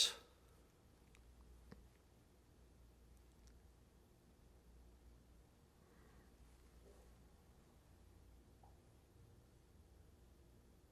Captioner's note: pauses 11 seconds